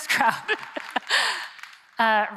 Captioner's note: laughter